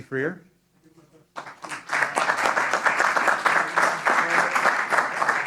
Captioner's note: applause